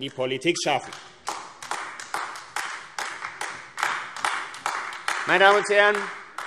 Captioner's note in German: Beifall AfD